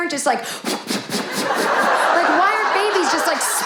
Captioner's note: babies whooshing; audience laughing